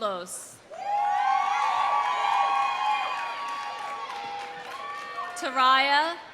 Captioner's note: audience cheering; audience applauding